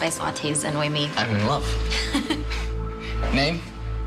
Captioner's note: laughs